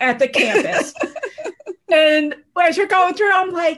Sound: laughing

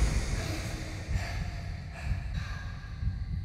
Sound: heart beat thumping

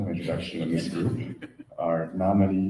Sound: laughter

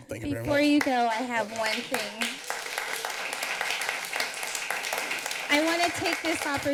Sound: applause

